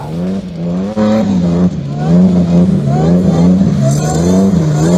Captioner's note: engine revving